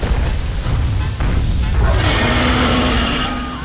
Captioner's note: roars; distant screams